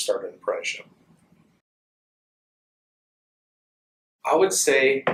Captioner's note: silence